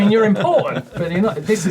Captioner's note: laughing